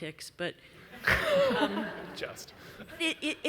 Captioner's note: audience laughs